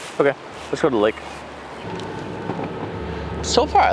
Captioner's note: engine rumbling